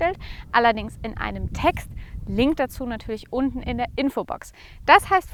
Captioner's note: in German